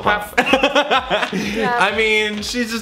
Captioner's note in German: lacht